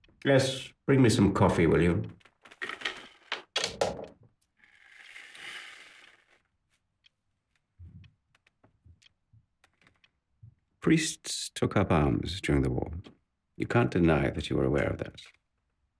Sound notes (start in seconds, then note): 2.6 phone clatters; 7.2 clock ticking continues